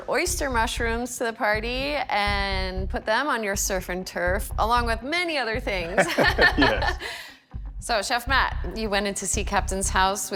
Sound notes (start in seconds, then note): 5.8 laughter